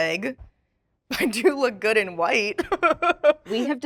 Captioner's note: laughing